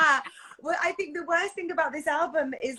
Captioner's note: screams; laugh